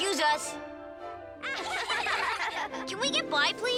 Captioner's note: laughing